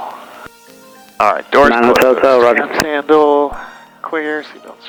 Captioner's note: radio talks over